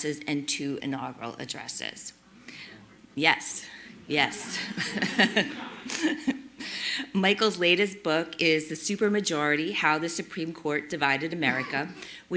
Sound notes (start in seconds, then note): 4.2 all laughing